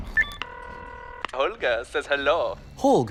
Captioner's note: phone rings; on phone